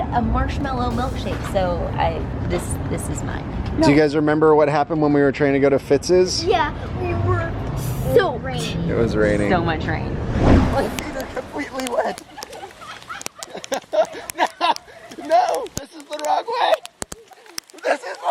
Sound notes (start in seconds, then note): 10.8 raindrops hitting pavement; 11.6 laughter